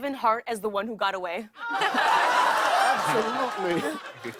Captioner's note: audience ohhs